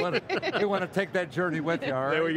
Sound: laughing

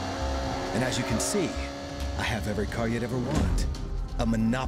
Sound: engines revving

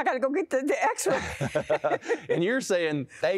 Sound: laughter

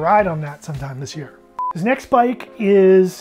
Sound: timer beeping

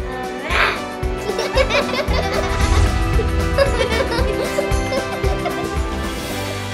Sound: laughter

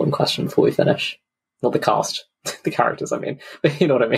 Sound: laughs

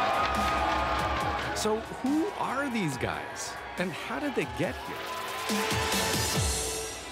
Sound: applause

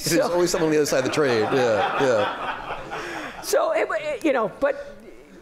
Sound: laughter

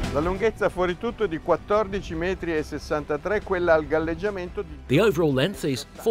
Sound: speaking in foreign language

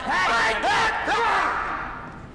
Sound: yelling

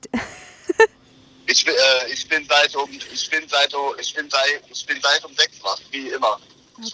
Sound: stuttering

